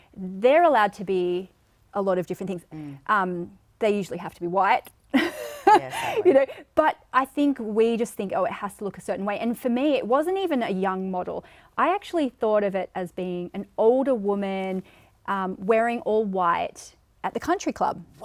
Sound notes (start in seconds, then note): 5.2 laughing